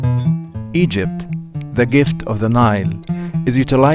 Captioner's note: music playing-- no dialogue; male voice over